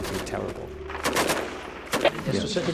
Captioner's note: gunshots